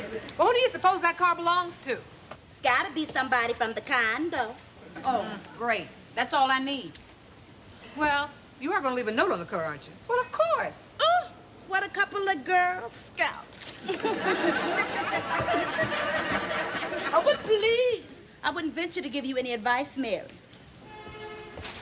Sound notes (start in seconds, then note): 13.7 chuckling